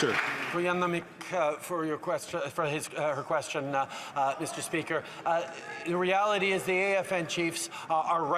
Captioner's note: applause